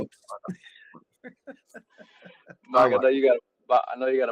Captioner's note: laughing